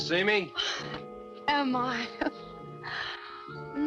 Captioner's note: laughs